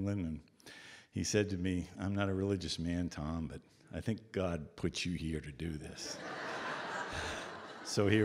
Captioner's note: audience Laughter